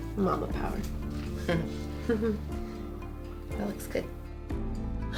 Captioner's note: laugh